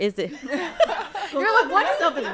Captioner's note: everyone laughing